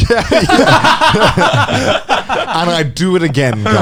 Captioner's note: hosts laughing